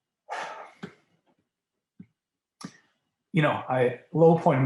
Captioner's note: sighs